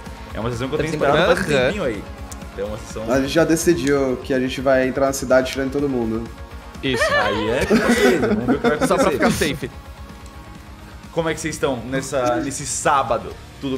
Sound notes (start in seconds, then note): 6.9 laughs